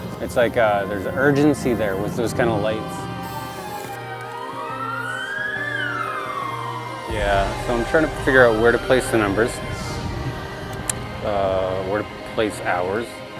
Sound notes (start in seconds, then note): 3.6 sirens